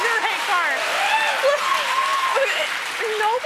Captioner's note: applause